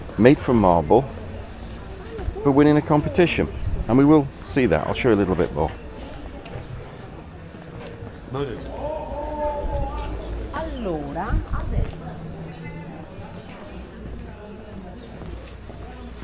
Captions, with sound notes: made from marble for winning a competition. And we will see that, I'll show you a little bit more. (people chattering)